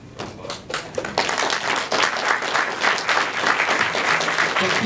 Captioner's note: claps